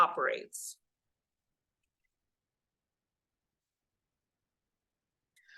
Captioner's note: audio cuts out